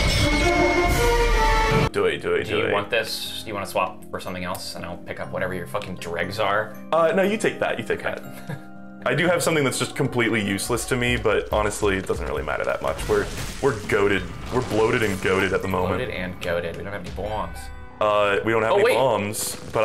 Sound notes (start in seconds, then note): 8.6 laughs